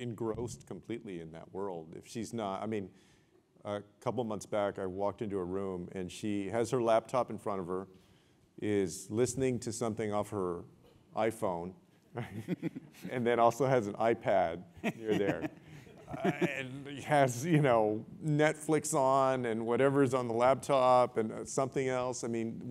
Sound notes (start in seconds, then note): 14.8 laugh